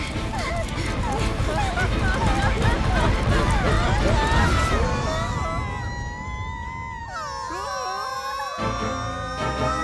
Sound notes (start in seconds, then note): 0.2 whimpering; 3.6 screaming